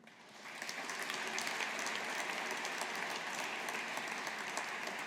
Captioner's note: audience applauding